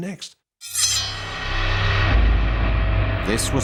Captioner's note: sword ringing; soft dramatic music